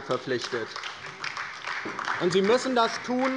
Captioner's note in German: Beifall bei der LINKEN